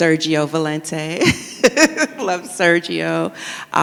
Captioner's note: chuckles